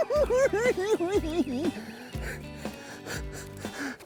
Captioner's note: cackling